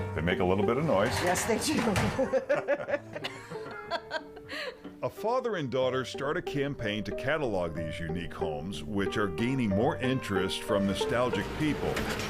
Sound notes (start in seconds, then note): 0.8 metal clattering; 4.6 both laughing